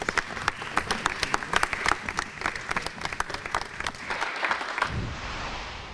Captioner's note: applause